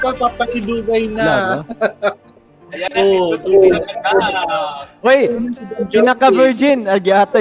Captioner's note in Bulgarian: Смях